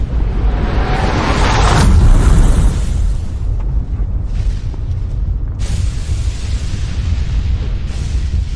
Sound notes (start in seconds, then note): 1.6 wind whooshing